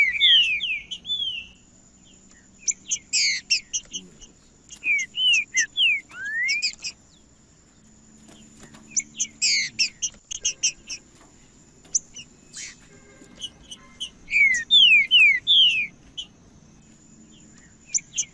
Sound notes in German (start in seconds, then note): 3.3 trinca ferro cantando; 5.3 trinca ferro cantando; 7.3 trinca ferro cantando; 9.3 trinca ferro cantando; 11.3 trinca ferro cantando; 13.3 trinca ferro cantando; 15.3 trinca ferro cantando; 17.3 trinca ferro cantando